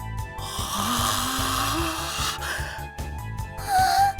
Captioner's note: shocked gasp